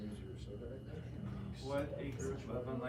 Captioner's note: indistinct chatter